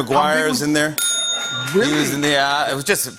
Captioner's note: bell dings